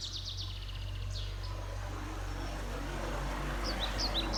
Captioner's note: water lapping